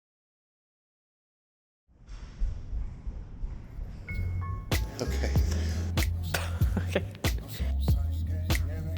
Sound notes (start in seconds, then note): 5.9 upbeat music; 6.4 laughter